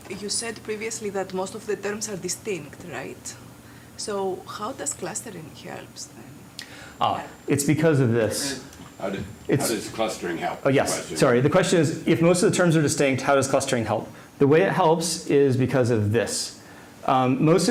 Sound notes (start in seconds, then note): none